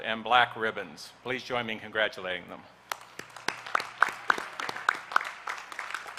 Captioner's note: applause